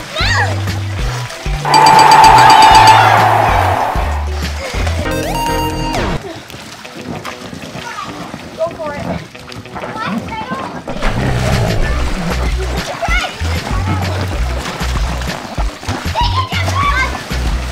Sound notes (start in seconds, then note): 1.6 ding, ding, ding, ding!; 1.6 crowd Cheering; 6.4 fun music; 14.4 splashing and playing